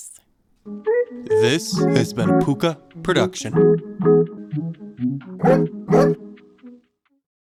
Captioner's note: woof woof